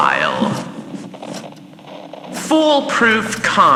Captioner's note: flipping through more books fx